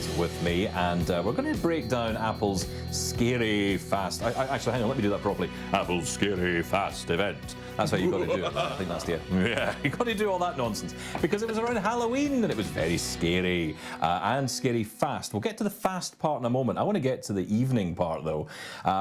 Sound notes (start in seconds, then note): 7.9 laughs; 7.9 laughing